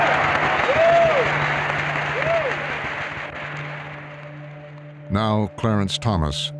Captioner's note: audience cheering